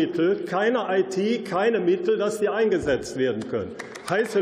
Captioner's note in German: Beifall